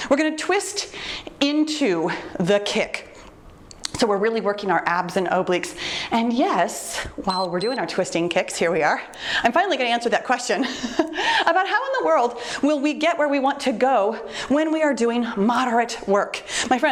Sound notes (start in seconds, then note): 7.2 timer beeps; 10.7 chuckles